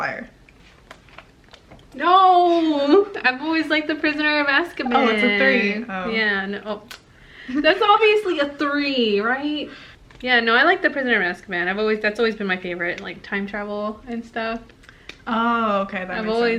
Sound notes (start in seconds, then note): 7.3 smacks